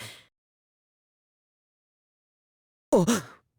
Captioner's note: silence